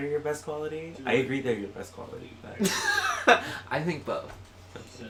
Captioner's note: laughs